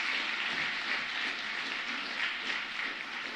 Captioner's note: applause